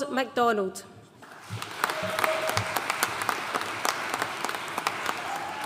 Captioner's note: audience cheering and applauding